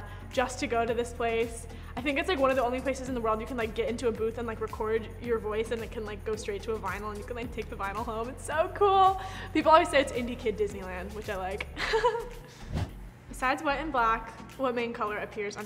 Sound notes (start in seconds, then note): 11.8 chuckling